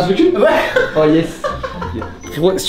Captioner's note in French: rire